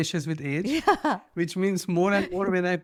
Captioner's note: laughs